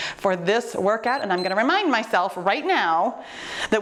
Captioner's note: timer beeps